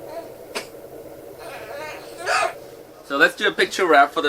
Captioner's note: baby crying